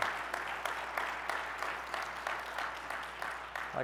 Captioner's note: audience applauding